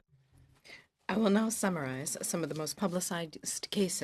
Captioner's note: speaking French